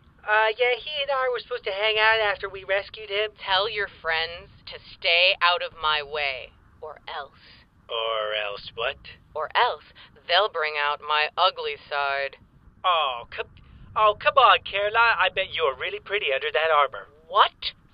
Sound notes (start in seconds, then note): none